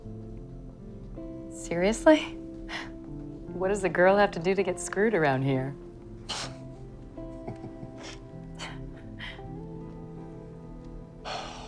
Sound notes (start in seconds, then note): 5.3 laughs; 7.2 chuckles; 9.5 sighs